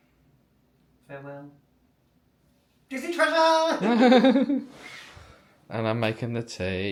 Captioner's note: laughs